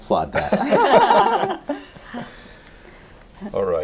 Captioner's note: laughter